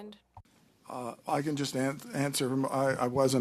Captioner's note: speaking French